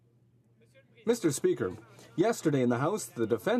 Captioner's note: speaking French